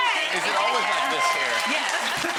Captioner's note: audience cheers